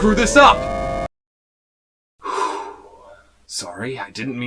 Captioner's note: deep breath